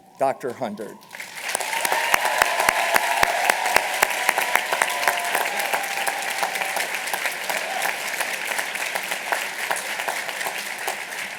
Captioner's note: applause